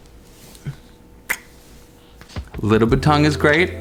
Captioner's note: kissing